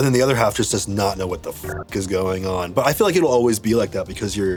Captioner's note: beep